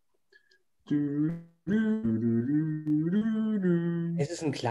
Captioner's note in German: summt